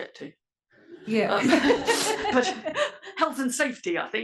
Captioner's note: laugh